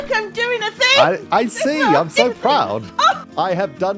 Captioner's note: excited noises